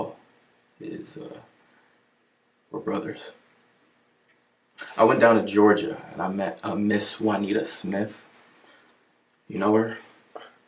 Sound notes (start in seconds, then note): none